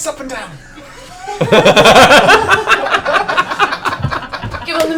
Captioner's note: laughter